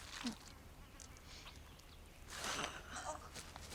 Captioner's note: substance squishing